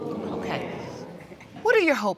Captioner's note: audience exclaiming